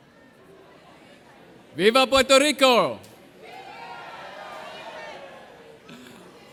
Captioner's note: audience cheering